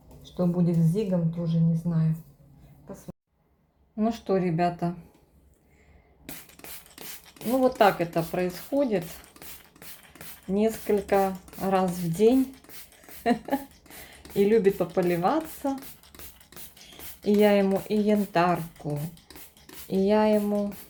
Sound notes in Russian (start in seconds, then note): 13.2 смех